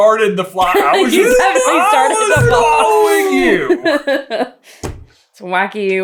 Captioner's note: laughter